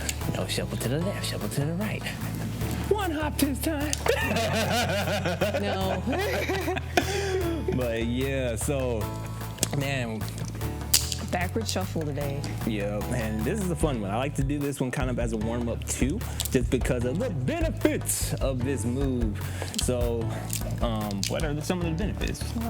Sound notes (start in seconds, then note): 4.0 laughs; 6.3 both laugh